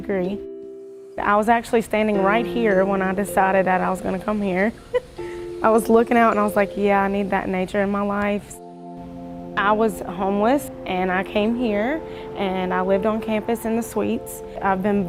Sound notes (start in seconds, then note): 4.8 chuckles quietly